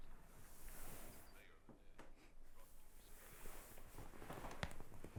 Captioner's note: muffled chatter on TV